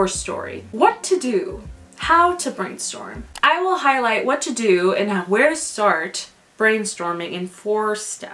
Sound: click noise

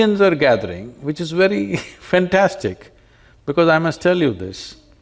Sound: laughs

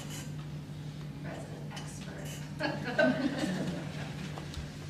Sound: chuckles

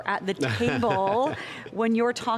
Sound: laughs

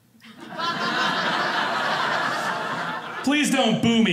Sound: audience laughing

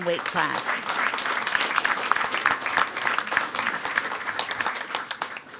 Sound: everyone applauding

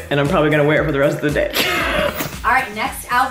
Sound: laughs

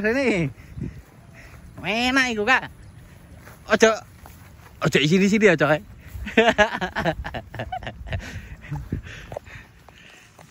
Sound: laughs

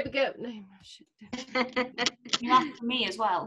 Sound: laughter

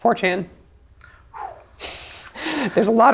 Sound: exhales intensely; laughs

